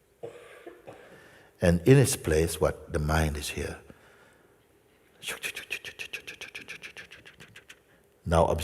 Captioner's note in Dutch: imiteert babbelende mind